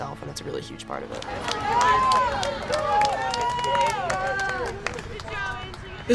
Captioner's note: crowd cheering and clapping